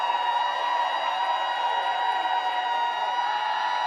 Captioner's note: applause